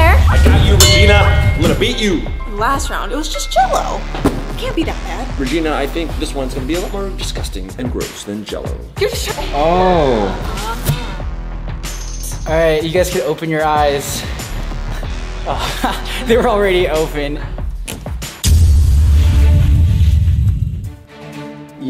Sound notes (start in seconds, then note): 15.4 chuckles; 18.0 suspenseful music